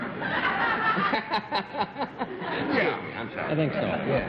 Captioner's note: laughter